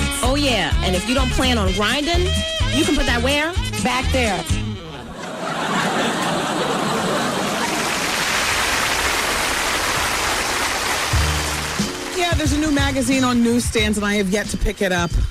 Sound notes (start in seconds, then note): 5.1 laughter; 6.0 applause